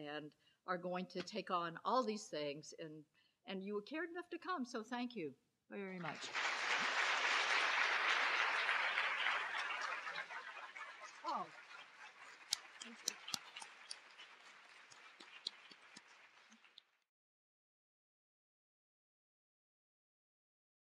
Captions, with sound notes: and are going to take on all these things, and, and you cared enough to come, so thank you very much. (loud applause) Oh, (clapping) thank you, thank you.